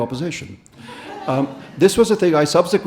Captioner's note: audience laughing